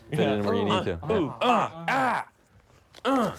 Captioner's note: lucas grunting